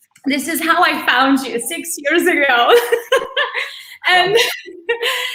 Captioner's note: laughs